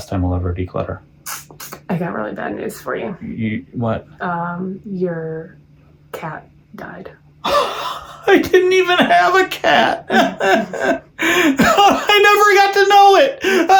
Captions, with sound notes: I'll ever declutter. - (sucks lips) I got really bad news for you. - You, what? - Your cat died. - I didn't even have a cat. (sobs) I never got to know it.